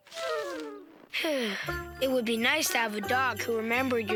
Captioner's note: sighing